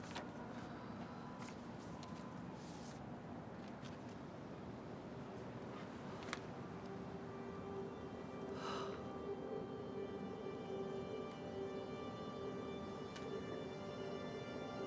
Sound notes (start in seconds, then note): 6.6 slow dramatic music; 6.8 Rene sighs